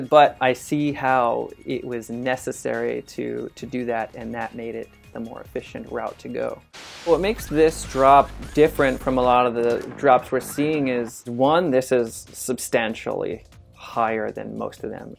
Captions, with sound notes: but I see how it was necessary to do that and that made it the more efficient route to go. [static noise] What makes this drop different from a lot of the drops we're seeing is, one, this is substantially higher than most of them.